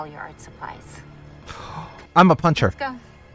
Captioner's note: gasp